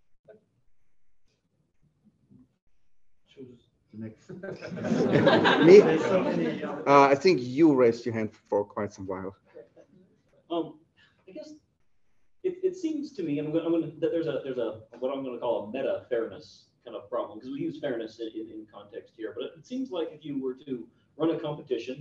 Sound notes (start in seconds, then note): 4.3 laughter